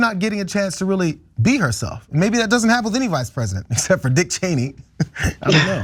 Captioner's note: laugh